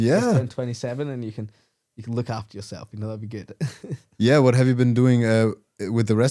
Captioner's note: laughs